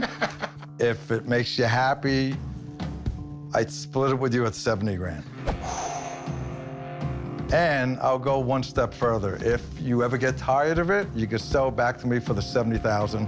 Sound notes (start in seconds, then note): 0.0 laughs; 5.4 exhales